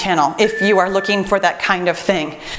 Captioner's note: timer beeps